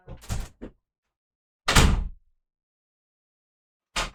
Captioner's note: equally frustrated door sound